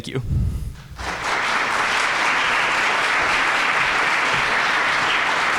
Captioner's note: audience applauding